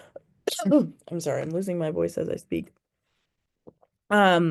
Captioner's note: sneezes